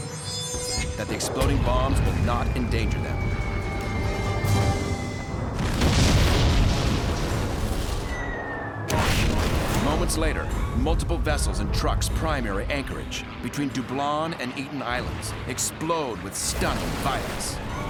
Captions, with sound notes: that the exploding bombs but not endanger them. [explosion] [missiles whirring] [explosion] Moments later, multiple vessels in Truk's prime air anchorage, between Dublon and Eten Islands, explode with stunning violence.